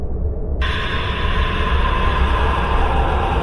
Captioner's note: scream